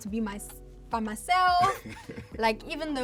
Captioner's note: laughs